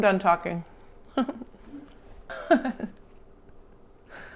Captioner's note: laughs